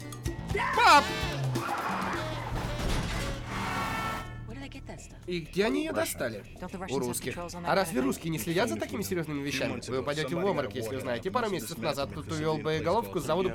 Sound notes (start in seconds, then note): 1.6 tires screeching, horn hking